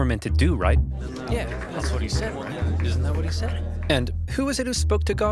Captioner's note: crowd murmuring